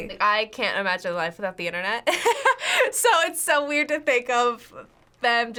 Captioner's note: laughs